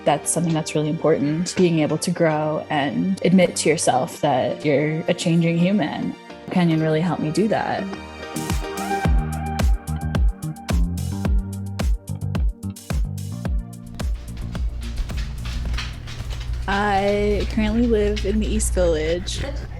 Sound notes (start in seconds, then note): 8.8 upbeat music; 13.8 footsteps resound